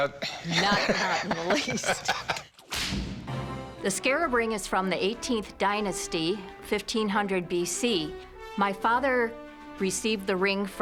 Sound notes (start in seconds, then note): 0.3 laughs; 0.4 laughter; 2.6 whip cracks